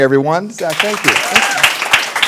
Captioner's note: applause